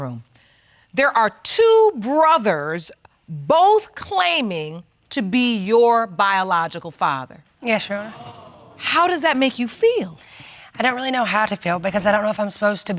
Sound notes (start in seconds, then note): 7.1 audience gasping